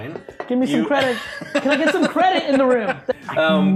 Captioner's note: laughing